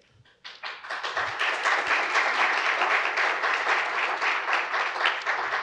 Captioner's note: audience applauds